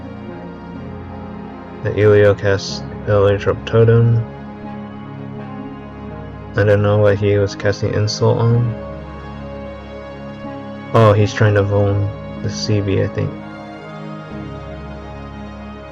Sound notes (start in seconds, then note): 4.0 distorsion